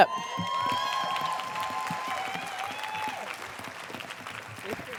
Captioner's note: applause